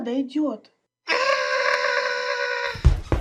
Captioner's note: bloodcurling screech